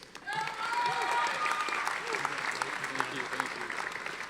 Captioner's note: audience applauding